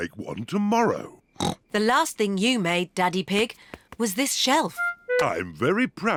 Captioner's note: snorts